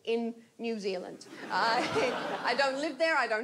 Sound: audience laughs

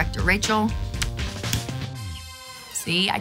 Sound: upbeat music; hand clapping

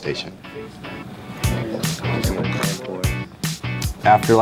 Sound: students murmuring

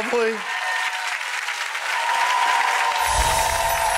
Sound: audience applauding and cheering

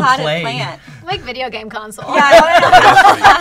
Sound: laughter

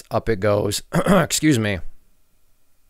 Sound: clears throat

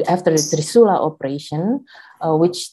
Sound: speaks in foreign language

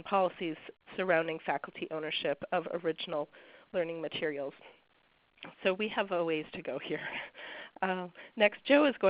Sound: chuckles

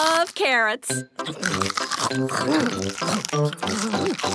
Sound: crunch

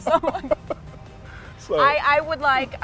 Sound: both laughing

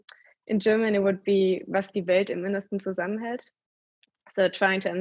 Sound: speaking german

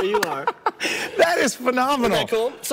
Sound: laughs

